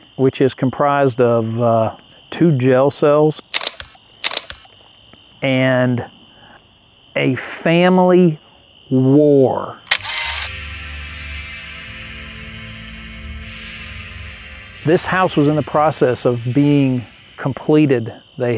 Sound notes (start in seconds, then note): 3.5 camera clicking; 9.8 camera clicking; 10.4 spooky music